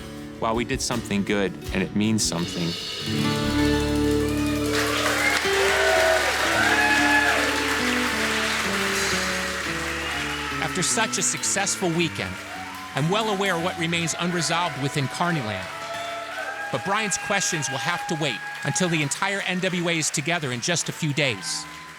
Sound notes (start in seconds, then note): 3.4 audience cheering; 4.7 applause